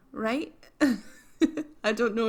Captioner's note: laughs